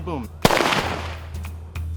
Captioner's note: gun firing; upbeat percussive music